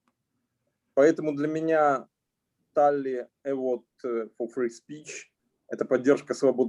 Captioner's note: speaking Russian language